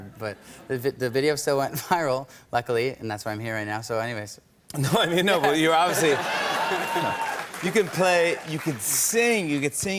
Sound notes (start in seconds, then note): 0.8 chuckling; 5.4 laughter and cheers